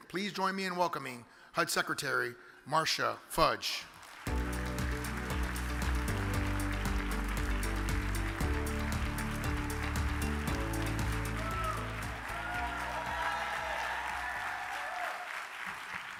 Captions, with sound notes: Please join me in welcoming HUD secretary, Marcia Fudge. (upbeat music) (audience applauds) (audience cheers)